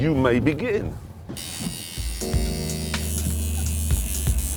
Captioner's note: buzzing